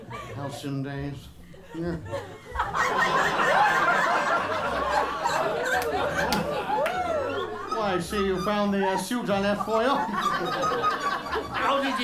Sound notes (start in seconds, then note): 1.6 laughter; 4.5 saucy whistles; 9.6 laughter continues